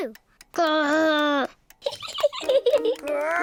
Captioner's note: laughs